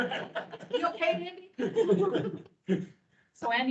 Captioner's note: members laughing